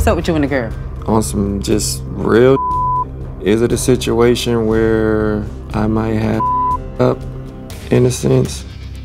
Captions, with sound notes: - So what's up with you and the girl? - On some just real (beep), is it a situation where I might have (beep) up, in a sense?